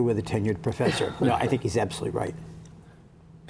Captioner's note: laughter